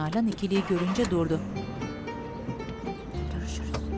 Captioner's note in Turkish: Araba sesi